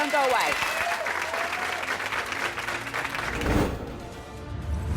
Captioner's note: applause and cheers